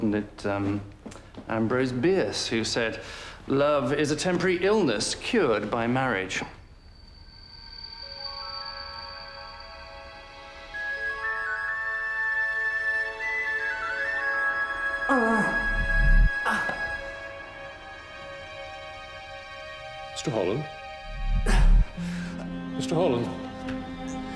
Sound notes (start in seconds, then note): 7.6 soft mysterious music; 15.0 groaning